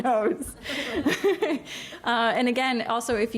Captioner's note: laughs